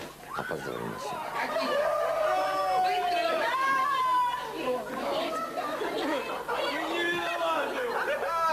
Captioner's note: surprised screaming and yelling